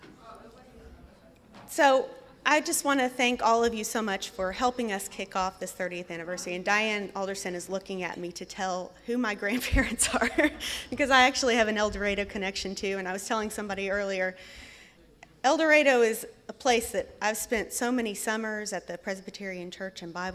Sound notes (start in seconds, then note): 9.6 laughs